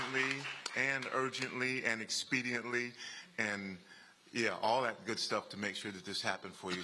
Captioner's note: applause